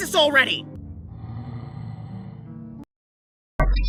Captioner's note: inhales